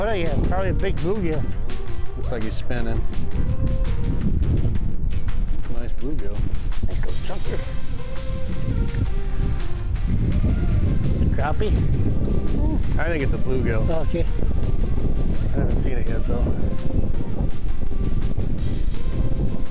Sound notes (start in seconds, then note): 0.0 fishing rod whirring; 8.0 upbeat music; 8.0 wind whooshing